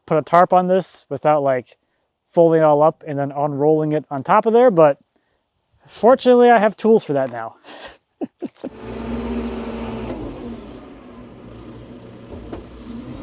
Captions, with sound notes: put a tarp on this without like folding all up and then unrolling it on top of there, but, fortunately, I have tools for that now. (laughs) (construction vehicle humming)